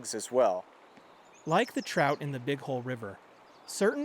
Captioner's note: voice-over